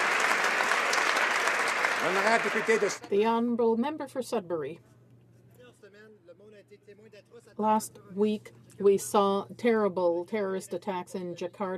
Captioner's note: some Applause